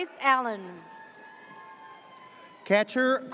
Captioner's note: audience cheers